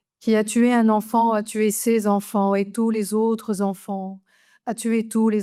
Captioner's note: speaks French